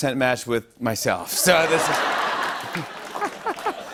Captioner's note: laughter